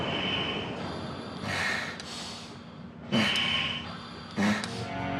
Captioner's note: intense music; respirator hissing